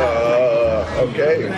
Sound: JJ groans

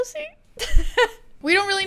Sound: laughs

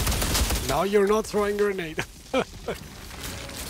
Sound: laughs

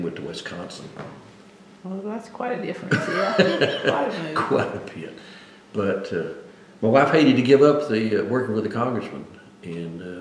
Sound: laughs

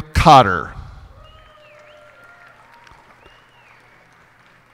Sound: cheers and applause

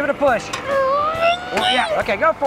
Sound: grunting

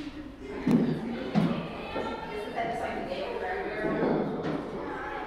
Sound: people talking in background

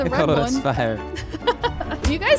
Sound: laughing amusingly

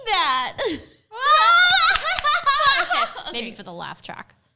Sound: both fake laughing

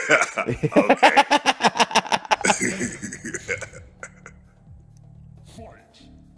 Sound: laugh

